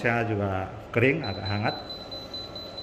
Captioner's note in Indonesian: suara beep